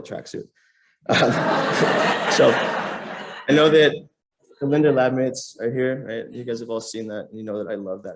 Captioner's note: laughter